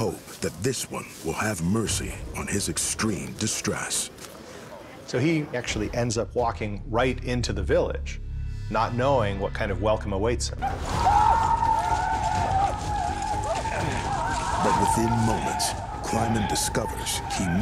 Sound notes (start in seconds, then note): 10.9 pawnee yelling in alarm